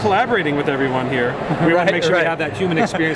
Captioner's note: laughs